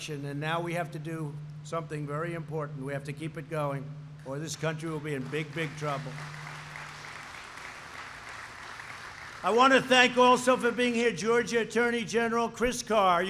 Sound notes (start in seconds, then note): 4.9 applause